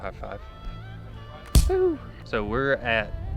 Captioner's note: slap sound